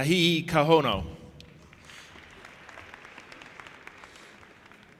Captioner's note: audience applauding